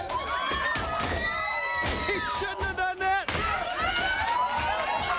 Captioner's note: crowd cheering